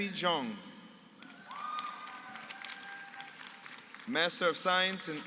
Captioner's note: applause